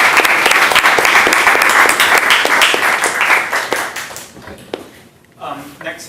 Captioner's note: applause